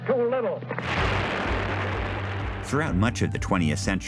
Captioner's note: debris thundering